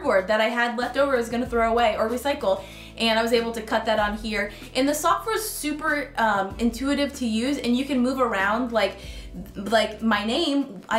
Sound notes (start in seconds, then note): none